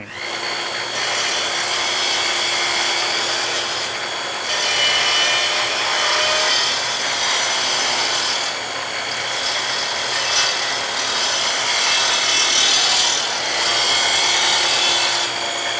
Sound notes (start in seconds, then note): 1.2 sawing wood